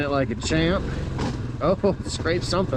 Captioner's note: metal scrapes rock